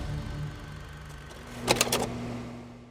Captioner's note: click